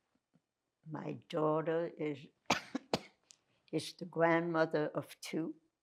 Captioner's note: coughing